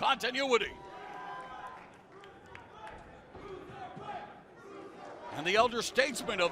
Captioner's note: crowd cheering